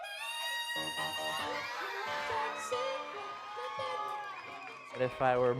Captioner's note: crowd cheering and applauding